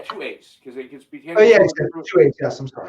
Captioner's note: voice muffling